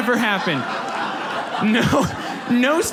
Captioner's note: audience laughs